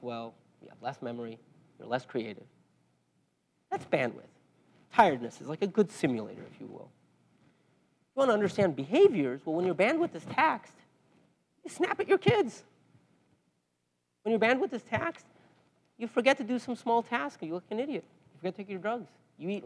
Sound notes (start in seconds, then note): none